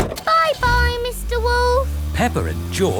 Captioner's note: engine starts